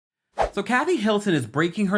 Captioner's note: woosh